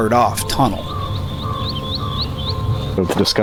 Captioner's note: birds chirping